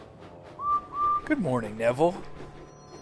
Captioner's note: edward whistles